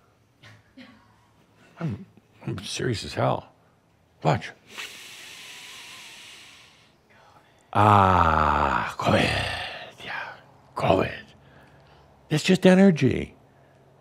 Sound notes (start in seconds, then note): 4.7 Adamus takes a good deep breath